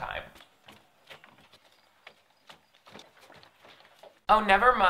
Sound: footsteps approaching

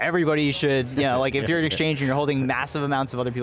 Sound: laughs

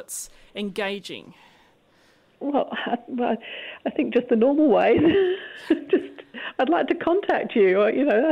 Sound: laughs

